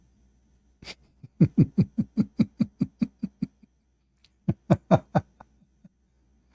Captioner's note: Ketawa